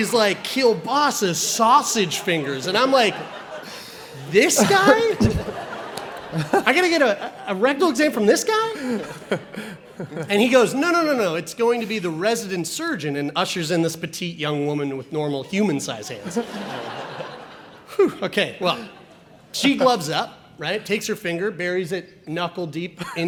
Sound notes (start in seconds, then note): 5.3 audience laughs; 16.1 audience laughs